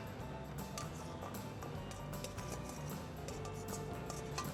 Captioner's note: dishes tapping